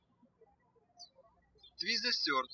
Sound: birds chirping

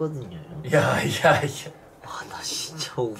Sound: haha

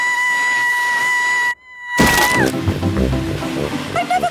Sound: screaming

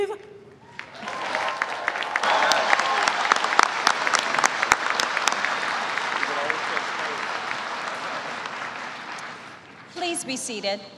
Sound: applause

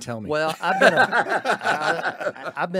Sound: laughing

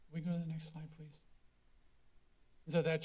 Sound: pause

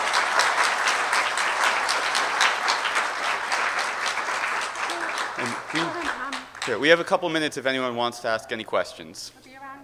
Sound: applause

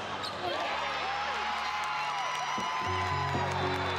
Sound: cheering

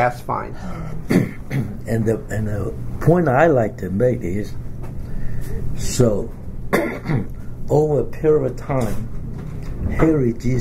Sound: coughs

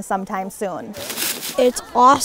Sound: brushing Sounds

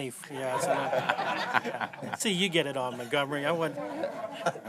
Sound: laughter

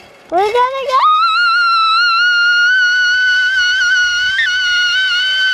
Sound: squeals

